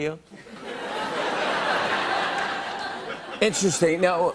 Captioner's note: laughter